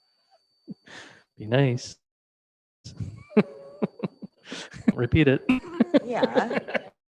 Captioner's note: laughing